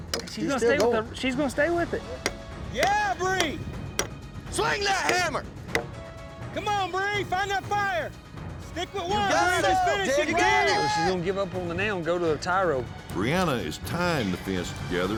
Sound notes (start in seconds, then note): 2.7 cowboys shout encouragement; 4.6 hammering; 8.7 cowboys shout encouragement